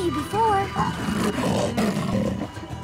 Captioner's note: roars